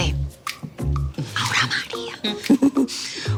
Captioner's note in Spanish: Susurra; Risas